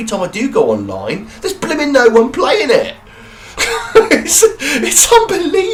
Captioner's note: laughing